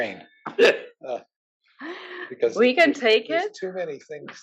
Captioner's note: laugh